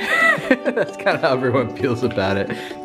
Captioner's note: laughs